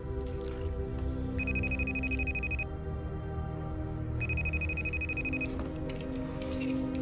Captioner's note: wound squelching; ominous music; phone ringing